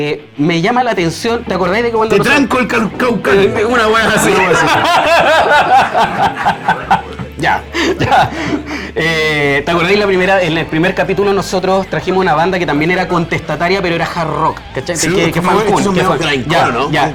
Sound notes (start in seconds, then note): 4.8 laughs